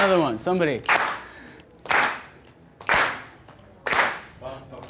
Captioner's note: clapping